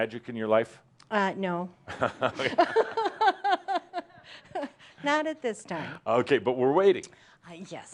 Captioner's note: they laugh